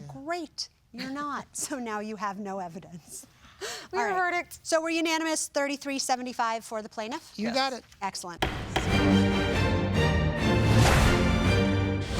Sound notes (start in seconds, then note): 8.4 gavel banging; 8.4 dramatic music